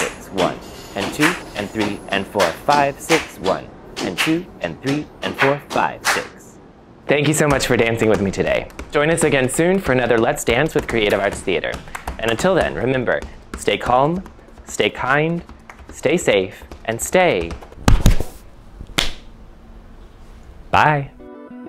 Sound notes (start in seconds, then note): 17.1 slapping